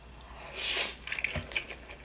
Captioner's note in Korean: 라면 후루룩거리는 소리